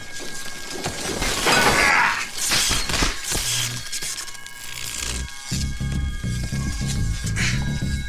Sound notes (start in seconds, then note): 1.6 grunting